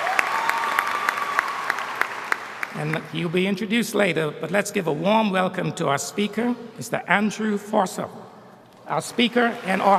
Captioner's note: applause